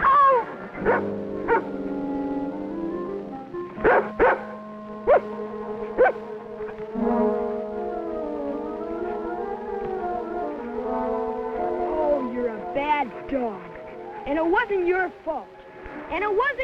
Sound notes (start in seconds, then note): 0.0 Champ whinnying; 1.1 Rebel barking; 7.3 whimsical music